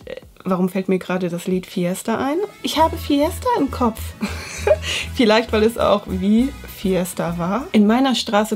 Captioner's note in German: Lach